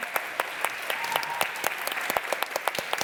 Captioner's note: applause